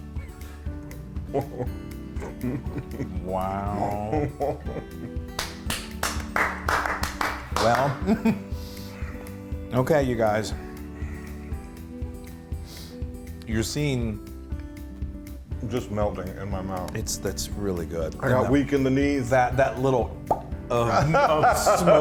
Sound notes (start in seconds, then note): 2.1 laugh; 5.3 applause; 7.8 laugh